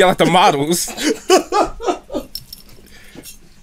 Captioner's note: laughs